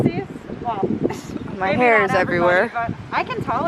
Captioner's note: laughs